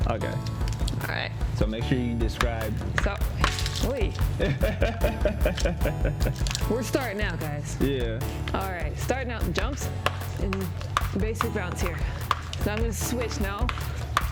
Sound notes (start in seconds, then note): 4.4 laughs